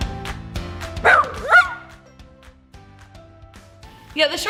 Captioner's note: dog barking